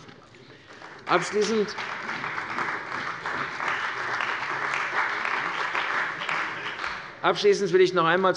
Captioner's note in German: Beifall bei der CDU und dem BÜNDNIS 90/DIE GRÜNEN